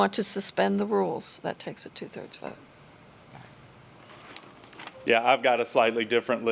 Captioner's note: A pause